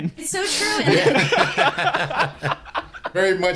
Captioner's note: laughter